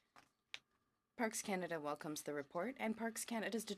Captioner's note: speaking in french